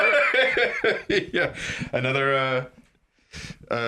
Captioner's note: laughs